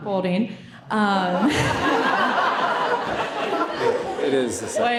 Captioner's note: all laughing